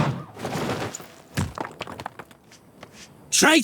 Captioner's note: footsteps